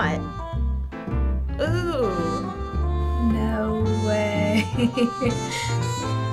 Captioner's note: chuckles